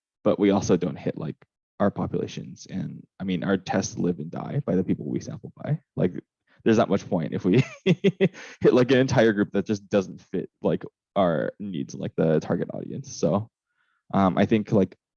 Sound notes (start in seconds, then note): 7.4 laughs